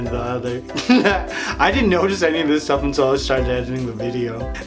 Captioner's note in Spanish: Risas